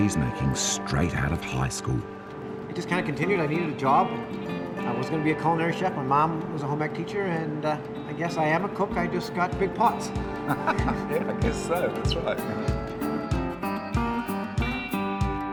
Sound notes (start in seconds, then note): 10.4 laughs